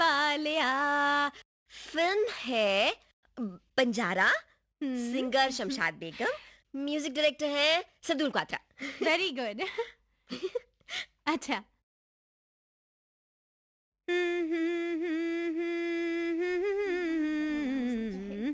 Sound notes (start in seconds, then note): 10.3 softly Laugh; 14.1 humming